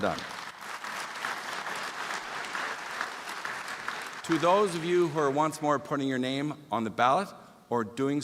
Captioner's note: applause